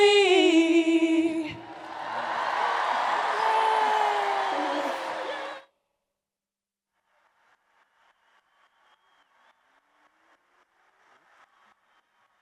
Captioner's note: applause and Cheers